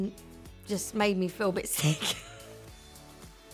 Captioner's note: laughs